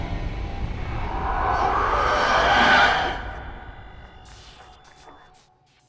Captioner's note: distorted voice screeching